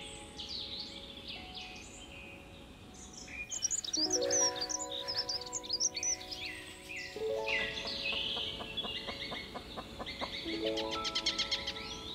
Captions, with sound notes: "Episode Ten" *Betsy clucks*